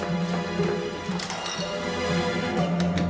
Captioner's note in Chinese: 物件碰撞聲